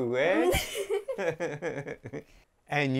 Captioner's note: everyone laughing